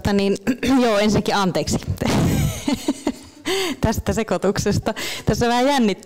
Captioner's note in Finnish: Naurahtaa